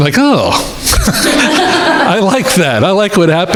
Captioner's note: crowd laughing